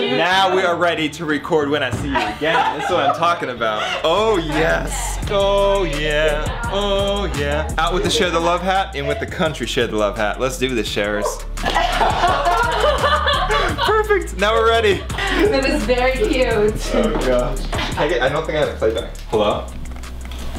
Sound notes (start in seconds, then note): 11.0 laughing